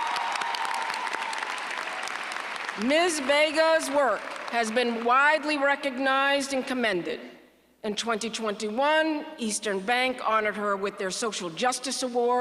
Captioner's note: applause